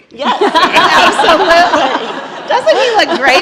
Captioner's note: laughter